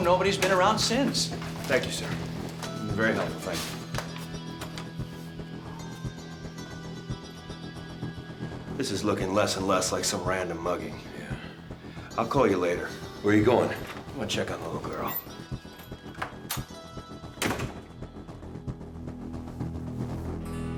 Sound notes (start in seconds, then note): 17.4 door closing